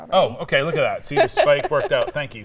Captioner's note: laughing